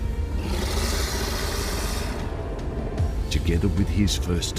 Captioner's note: snarling